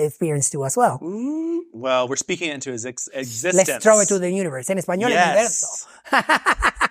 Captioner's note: speaking foreign language